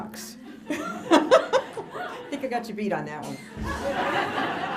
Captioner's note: laughter